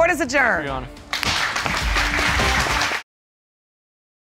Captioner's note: applause